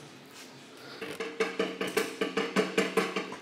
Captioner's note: Scheppern